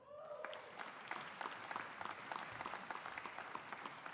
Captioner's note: audience applauding